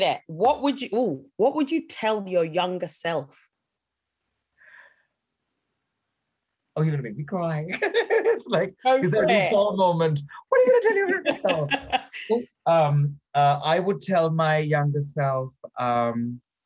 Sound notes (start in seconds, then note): 4.6 gasps; 7.7 laughs; 11.0 chuckling